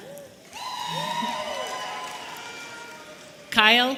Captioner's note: audience cheering